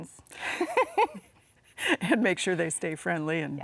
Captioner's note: both laughs